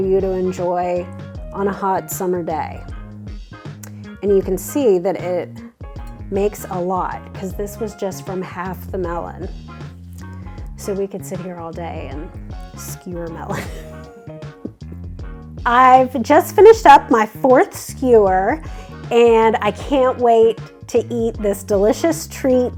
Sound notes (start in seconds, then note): 13.5 laughs